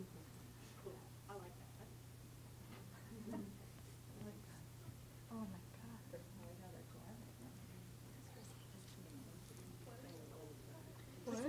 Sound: chatter

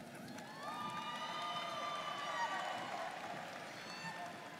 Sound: students cheering

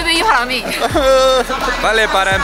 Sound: cries

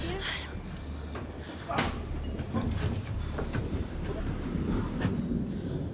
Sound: groaning

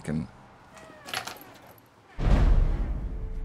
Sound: creak

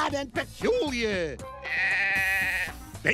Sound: dog bleats

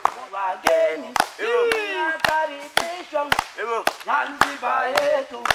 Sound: applause

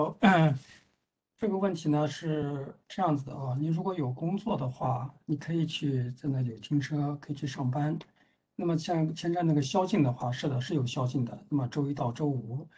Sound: speaks in Mandarin

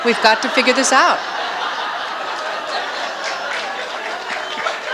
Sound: audience laughs

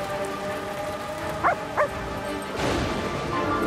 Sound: Dancer barking

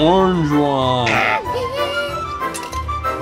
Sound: child gasps; game rattles

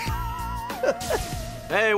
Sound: laughing

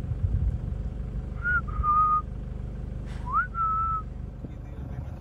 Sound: whistle

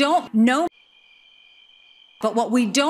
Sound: sound of crickets

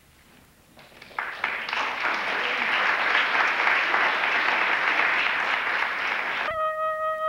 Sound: applause

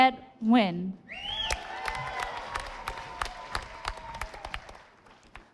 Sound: audience applauding

